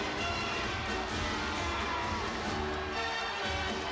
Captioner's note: crowd cheering